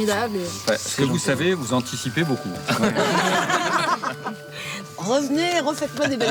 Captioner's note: laughs